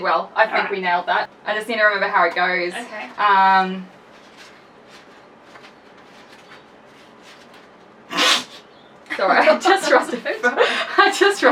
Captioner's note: laughs